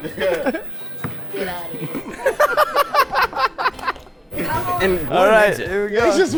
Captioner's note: group laughs